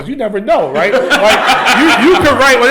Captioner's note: laughter